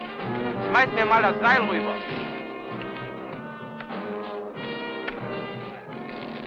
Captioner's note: speaking in a foreign language